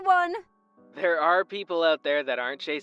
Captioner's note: phone vo